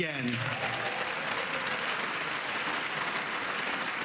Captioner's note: applause